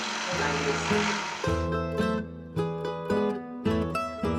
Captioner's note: drill buzzing